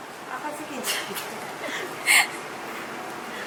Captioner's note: laughs